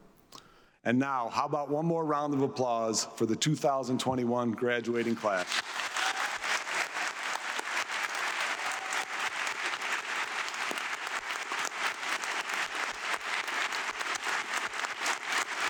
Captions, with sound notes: And now, how about one more round of applause for the 2021 graduating class. (audience clapping)